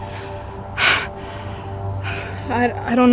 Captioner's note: laughs